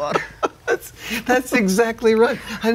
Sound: laughs

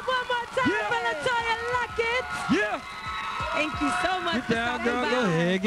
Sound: cheers and applause

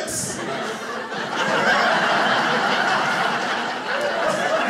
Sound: audience laughing

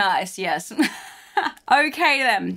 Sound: laughs

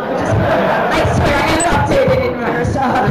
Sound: room erupts in laughter

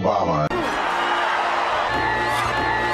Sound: cheering

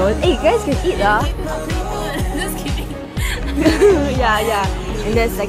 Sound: laughs

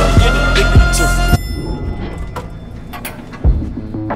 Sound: elevator ding

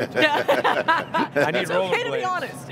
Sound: laughter

